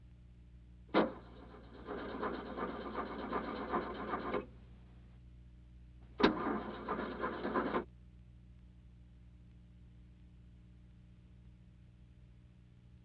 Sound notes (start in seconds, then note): 1.0 car not starting